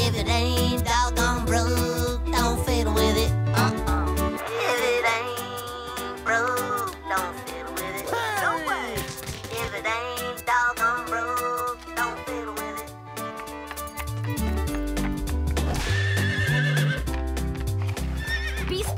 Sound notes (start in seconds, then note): 15.6 whinnying; 17.6 neighs